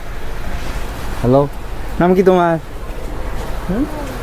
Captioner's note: local language